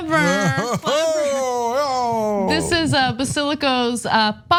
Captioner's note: laugh